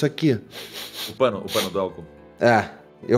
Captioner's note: sniff